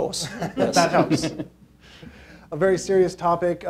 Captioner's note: laughing